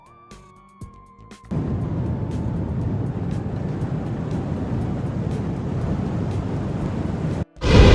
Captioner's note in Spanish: Sonido de Mochila Propulsora